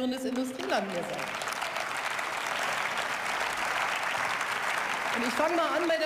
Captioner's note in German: Beifall